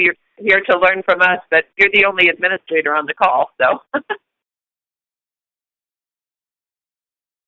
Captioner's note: chuckle